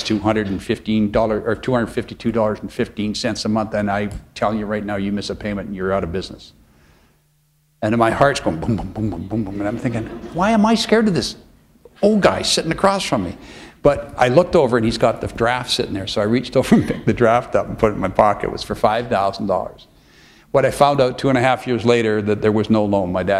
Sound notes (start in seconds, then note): 8.9 chuckle